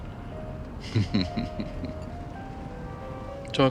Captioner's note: chuckles